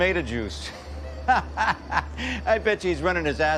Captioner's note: laughs